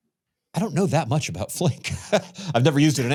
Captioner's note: laughs